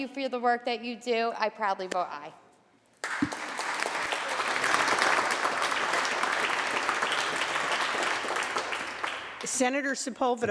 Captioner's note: applause